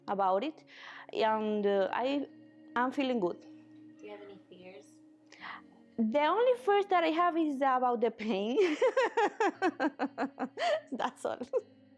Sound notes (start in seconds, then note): 8.6 laughing